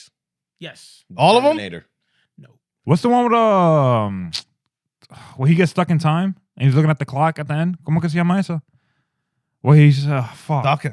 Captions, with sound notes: Yes. What's the one with the... Will he get stuck in time? And he's looking at the clock at the end? (Speaking In Foreign Language) Well, he's a fuck.